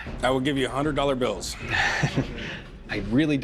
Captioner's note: chuckles